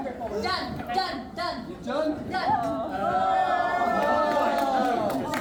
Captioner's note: crowd chattering; crowd cheering